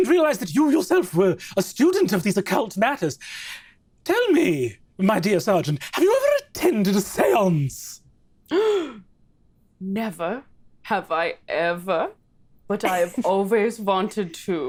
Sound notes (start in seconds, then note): 7.9 gasps